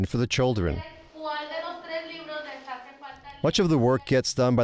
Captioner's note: speaking in foreign language